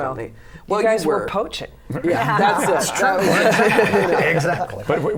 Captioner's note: laughter